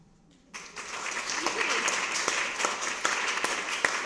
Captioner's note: applause